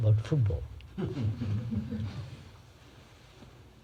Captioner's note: laughter